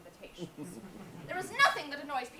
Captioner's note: audience laughs